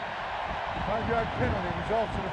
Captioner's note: cheering